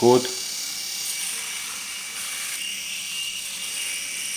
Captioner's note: razor buzzing